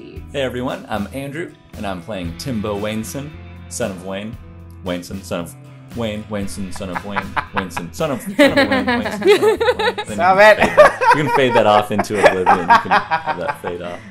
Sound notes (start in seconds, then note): 7.1 laughter; 8.0 laughs; 13.3 laughter